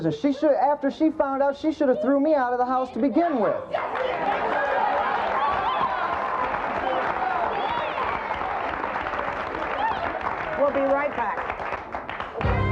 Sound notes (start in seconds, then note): 3.8 audience applauds